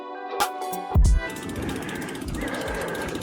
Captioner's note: car engine